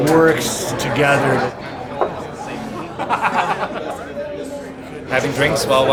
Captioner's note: man laughing